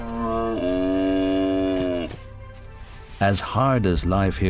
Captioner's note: camel grunts